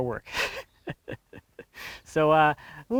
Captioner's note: laughing